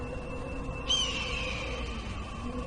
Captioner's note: bird of prey shrieking